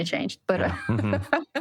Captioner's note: laughter